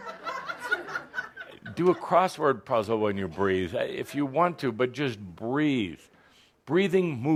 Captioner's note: laughter